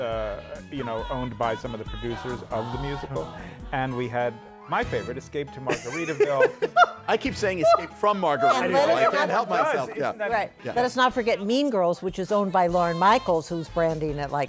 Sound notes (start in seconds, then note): 5.6 laughter